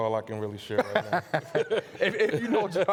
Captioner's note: laughing